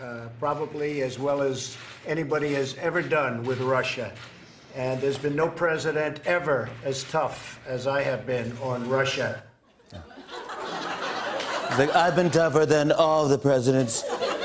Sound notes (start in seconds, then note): 9.8 laughter